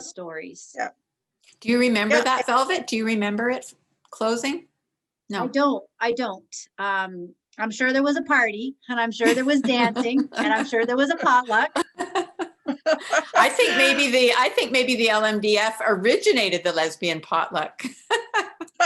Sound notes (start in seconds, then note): 13.1 laughter